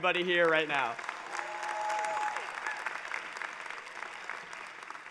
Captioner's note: applause, cheering